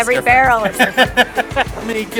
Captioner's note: laughing